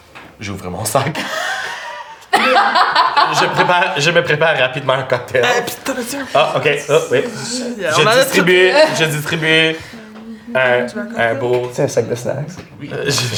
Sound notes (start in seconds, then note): 1.1 laughter